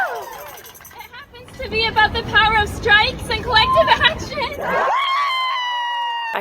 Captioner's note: applause